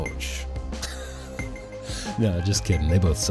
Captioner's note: laughs